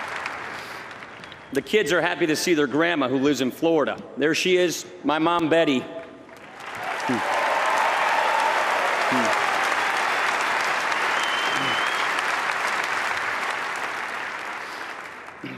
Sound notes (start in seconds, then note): 10.6 applause